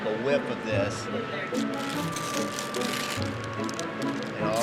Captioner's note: students chattering